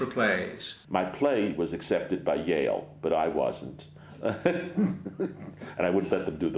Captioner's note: laughs